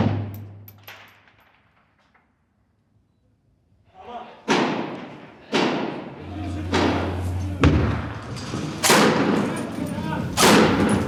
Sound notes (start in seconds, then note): 4.5 guns firing; 10.6 men speaking faintly in foreign language